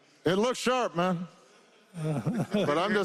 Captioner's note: laughter